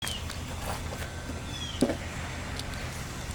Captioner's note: birds chirping